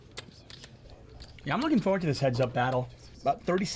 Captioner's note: whispering